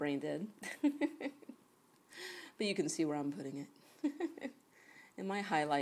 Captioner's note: chuckles